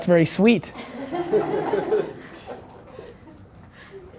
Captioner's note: laughter